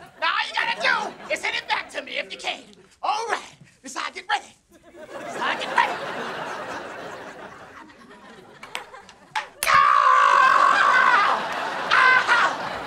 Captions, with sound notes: Now all you gotta do is hit it back to me if you can. Alright. This is how I get ready. This is how I get ready. [screaming] Oh!